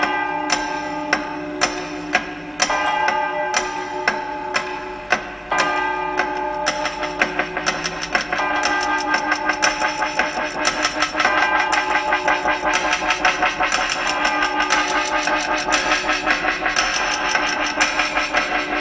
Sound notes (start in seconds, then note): 8.5 ticking and chiming; 14.8 ticking and chiming